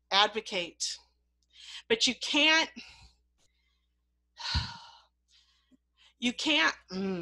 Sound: deep breath

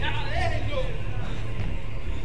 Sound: soldiers arguing

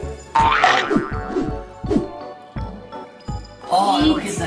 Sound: teeth chomping

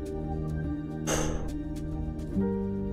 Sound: sighs

